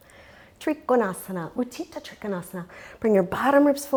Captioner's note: speaks in foreign language